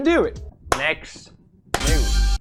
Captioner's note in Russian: хлоп